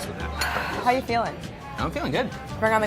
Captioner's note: heavy breathing